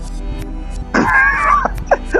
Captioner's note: laughs